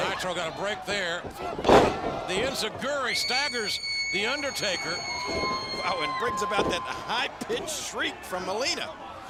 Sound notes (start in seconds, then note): 1.4 body slams; 4.5 Melina shrieks